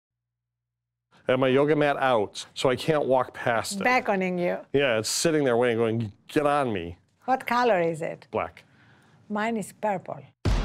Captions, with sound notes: - [Voiceover] Had my yoga mat out so I can't walk past it. - Beckoning you? - Yeah, it's sitting there waiting, going, get on me. - What color is it? - Black. - Mine is purple.